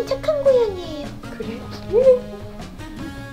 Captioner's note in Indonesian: tertawa